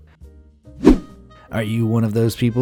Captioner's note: whoosh